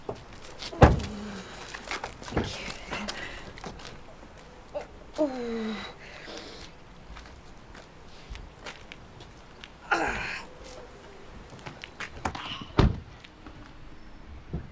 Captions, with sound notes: (Amy breathing heavily) Thank you. Ooh! (Winces) (Car door shuts)